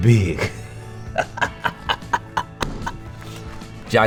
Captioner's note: laughs